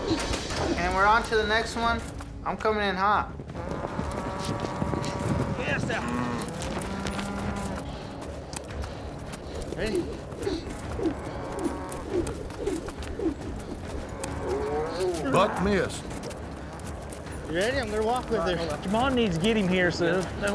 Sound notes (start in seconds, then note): 3.6 cow mooing; 11.5 rope swirling